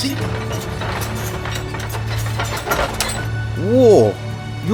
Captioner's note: tank treads